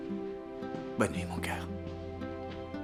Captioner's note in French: Eli chuchote